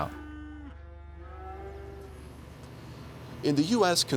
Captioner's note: cattle mooing